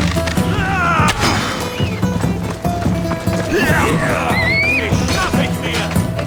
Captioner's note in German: stöhnen; schreien